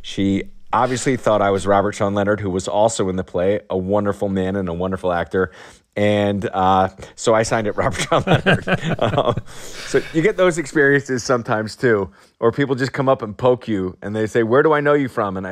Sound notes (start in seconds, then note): 7.7 laughter